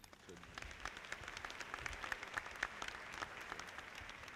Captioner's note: audience clapping